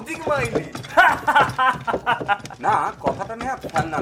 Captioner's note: Amulya Laughs